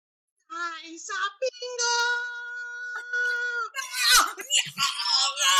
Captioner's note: screaming